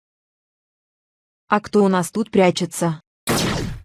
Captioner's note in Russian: Выстрел лазером